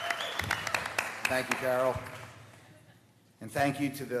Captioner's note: cheers and applause